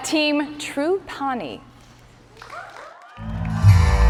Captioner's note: cheers and applause